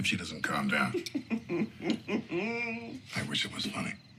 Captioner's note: chuckles lightly